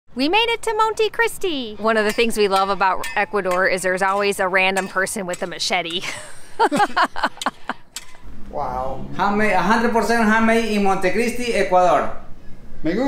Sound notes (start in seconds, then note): 5.9 laughs